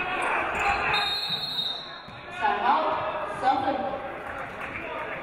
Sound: referee blows whistle

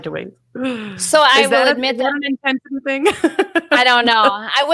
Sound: laughs

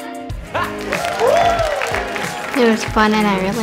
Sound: audience applauds

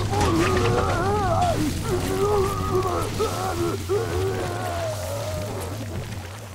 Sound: groaning

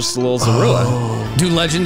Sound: groans

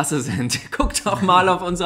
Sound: laughs

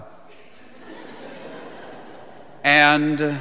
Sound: congregation laughing

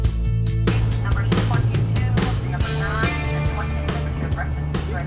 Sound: woman speaking over boat loudspeaker system

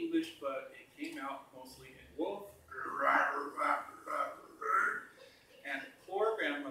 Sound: growling

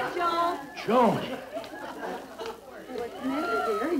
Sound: sighs

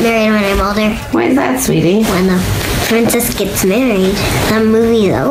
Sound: voiceover

